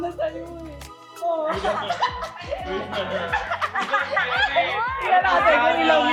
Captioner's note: laughs